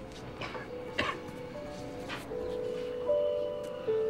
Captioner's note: coughs